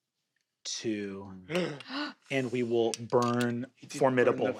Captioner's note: cast gasps